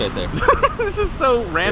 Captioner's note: laughs